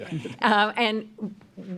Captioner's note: laughs